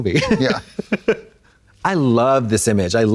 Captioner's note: Katya titters